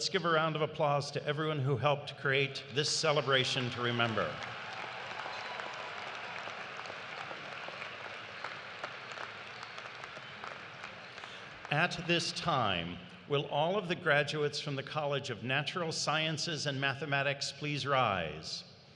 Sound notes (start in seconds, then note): 12.2 applause